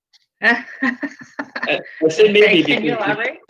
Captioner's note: laughs